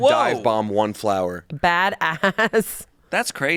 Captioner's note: laughs